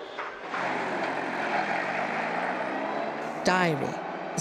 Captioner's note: engine rumbling